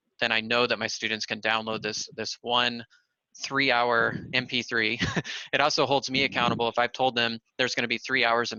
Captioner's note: laughter